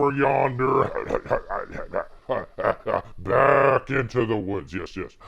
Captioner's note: coughs